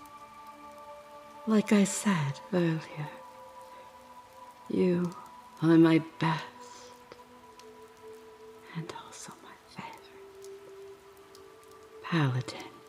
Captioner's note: whispers: “and also my favorite”